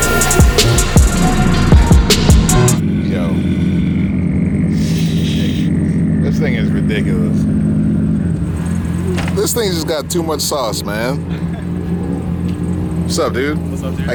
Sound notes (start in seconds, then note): 0.0 hip hop music; 1.9 engine idling; 10.8 laughs